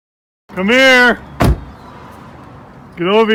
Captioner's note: La puerta del coche se cierra de golpe